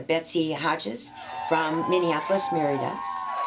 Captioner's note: guests cheering